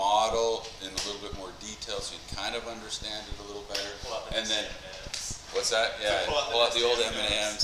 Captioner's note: students talking